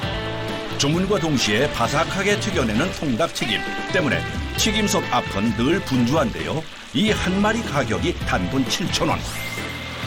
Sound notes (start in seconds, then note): 4.1 sizzling